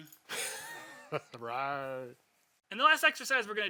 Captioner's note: both laughing